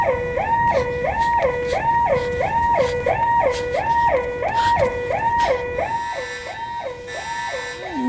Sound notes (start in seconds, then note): 0.6 panting